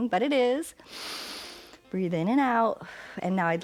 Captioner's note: inhales